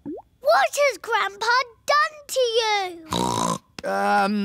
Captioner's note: snorts